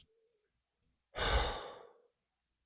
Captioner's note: sigh